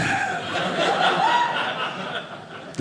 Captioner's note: audience laughing